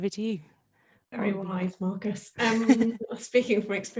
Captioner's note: laughing